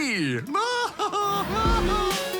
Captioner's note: laughs